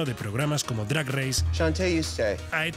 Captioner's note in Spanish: habla en inglés